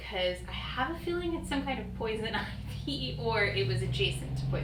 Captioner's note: laughs